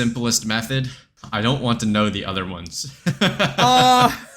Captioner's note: laughs